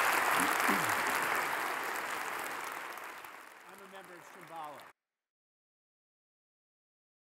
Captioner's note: applause